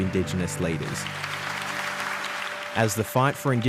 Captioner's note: applause